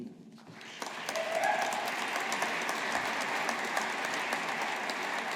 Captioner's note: audience applauding